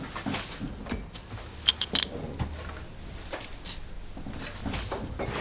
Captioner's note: glass clinks